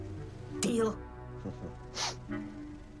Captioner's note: chuckles